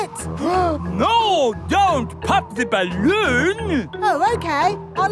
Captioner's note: gasps